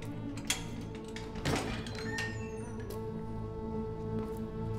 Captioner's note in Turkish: Kapı açılma sesi